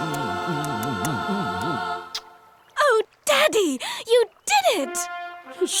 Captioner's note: kissing